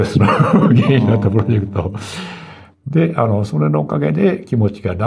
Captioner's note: laughs